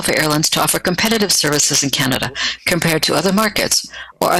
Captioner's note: speaking French